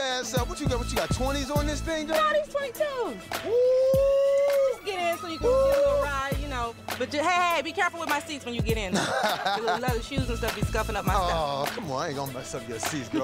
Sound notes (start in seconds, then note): 2.9 howling lightly